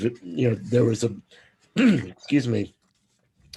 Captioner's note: clears throat